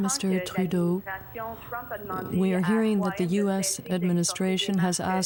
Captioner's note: speaking French